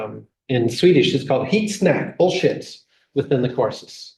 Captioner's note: speaking swedish